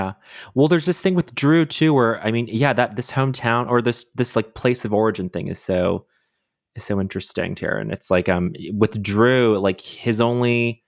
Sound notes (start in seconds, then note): none